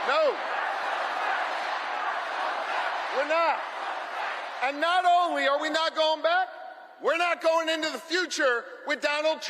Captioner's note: crowd chanting